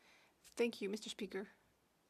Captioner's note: speaking French